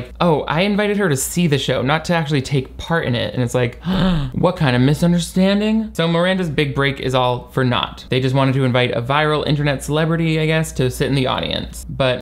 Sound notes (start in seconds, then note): 3.8 gasp